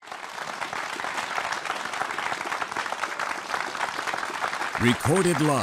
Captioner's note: applause